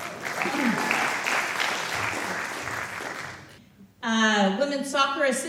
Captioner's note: applause